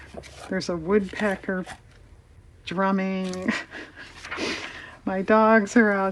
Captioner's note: laughs